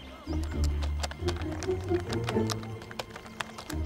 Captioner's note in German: Tastaturklicks